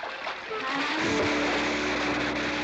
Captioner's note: splash